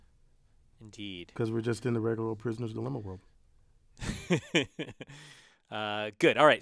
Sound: laugh

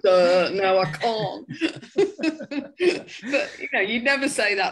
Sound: both laugh

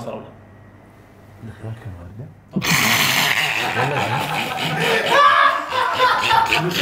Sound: everyone laughs

